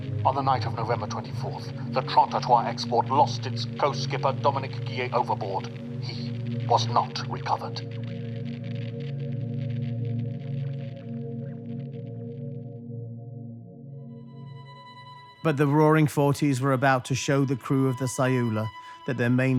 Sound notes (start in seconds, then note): 6.7 radio static